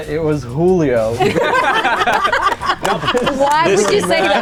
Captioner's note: all laughing